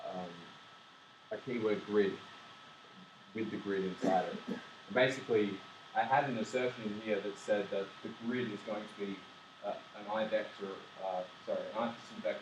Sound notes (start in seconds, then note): 6.2 static